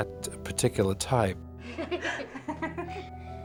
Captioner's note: both laughing